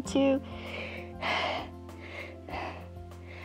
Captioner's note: inhales and exhales